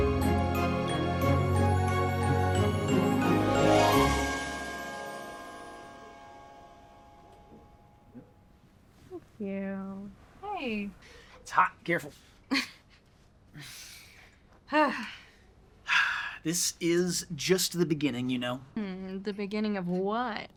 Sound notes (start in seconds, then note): 5.3 music fades; 12.5 Bree laughs; 15.8 Bree sighs